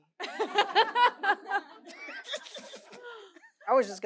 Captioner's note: audience laughing